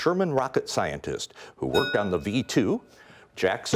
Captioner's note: bell rings